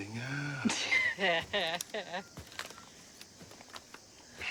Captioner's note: laughing